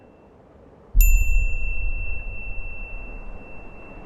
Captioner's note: bell chiming